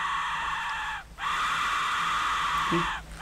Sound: conducting screaming

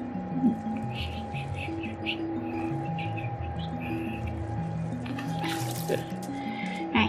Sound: underwater bubbling sounds; gentle whistling

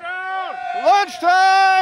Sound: all cheering

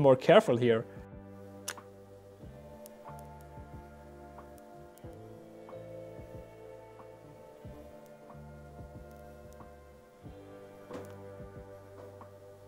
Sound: sizzle Sounds

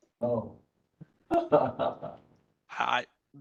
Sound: laugh

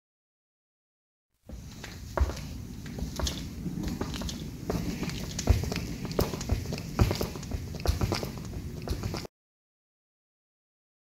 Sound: sound of footsteps

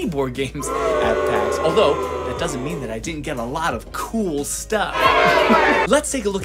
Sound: booing

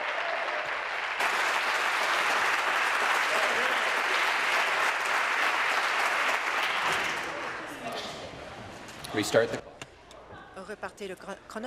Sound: applause

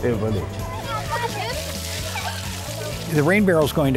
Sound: laughter

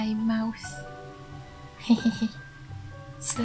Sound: giggle

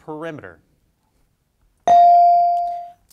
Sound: bell dings

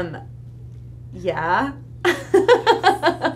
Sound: laughs

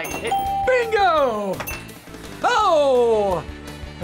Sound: bell rings

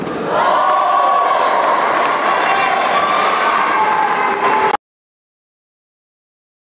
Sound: applause

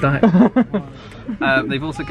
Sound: laughter

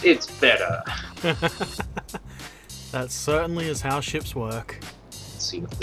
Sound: laughter

